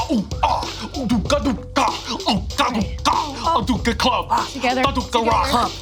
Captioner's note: Abby imitating cave men; upbeat music